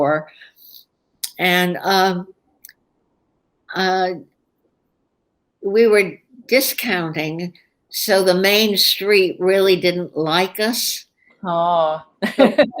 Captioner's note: laughter